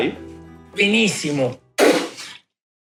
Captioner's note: spits